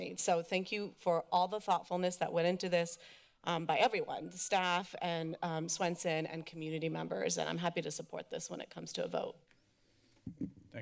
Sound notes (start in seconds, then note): none